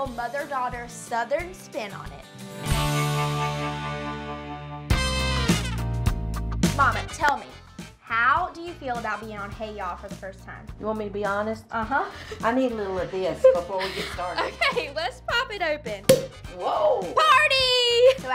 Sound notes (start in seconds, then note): 2.7 guitar riff; 5.0 upbeat music; 13.5 laughing; 16.1 cork popping